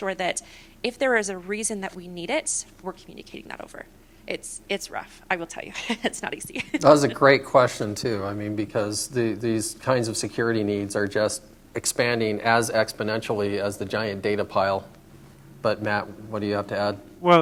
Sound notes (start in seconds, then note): 5.8 laughter